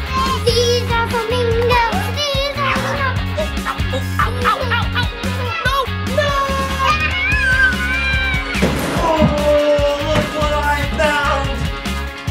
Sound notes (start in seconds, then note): 3.5 making funny noises